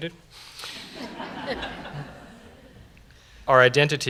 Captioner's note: laughter